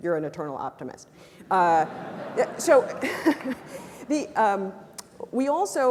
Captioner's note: laugh